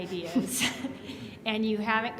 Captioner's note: laughs